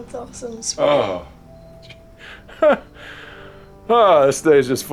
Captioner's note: laughs